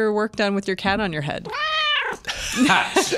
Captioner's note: cat meowing